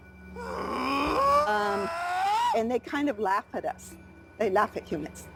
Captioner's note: Bigfoot screaming